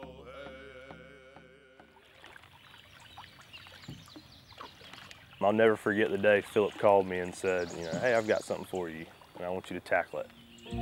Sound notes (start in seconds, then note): 1.9 birds chirping; 2.2 water lapping